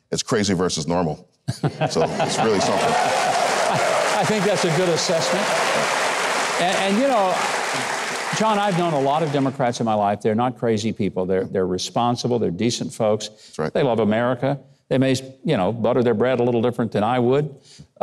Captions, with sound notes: It's crazy versus normal. (Mike laughing) So, it's really something. (audience cheering and applauding) - I think that's a good assessment. John, I've known a lot of Democrats in my life, they're not crazy people. They're responsible, they're decent folks. - That's right. - They love America. They may butter their bread a little different than I would.